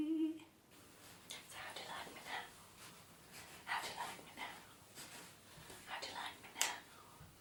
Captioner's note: whispered